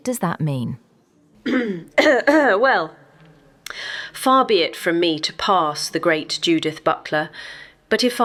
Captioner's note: clearing her throat